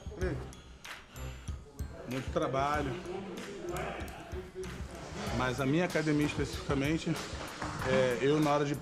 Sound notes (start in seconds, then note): 1.5 speaking Portuguese